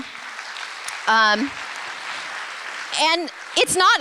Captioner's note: applause